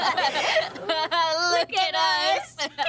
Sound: laughing

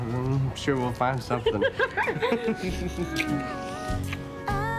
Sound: laughing

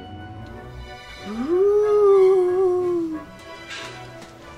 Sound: ghost moaning

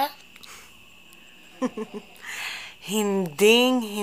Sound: chuckles

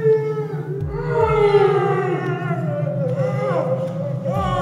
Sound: grunting and moaning

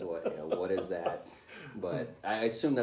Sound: laughter

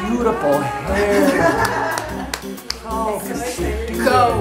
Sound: laughing

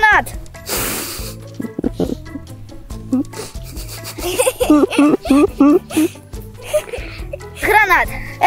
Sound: laughing

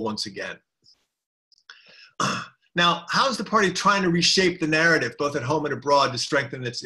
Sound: cough

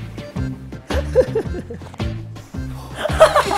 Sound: laughing like a crazy person

